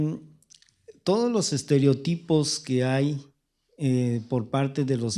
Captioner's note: speaking spanish